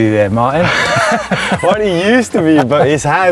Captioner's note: laughter